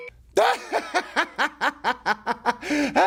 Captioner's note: laughing